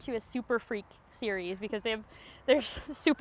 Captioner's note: laughs